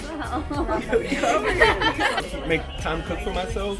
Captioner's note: laughter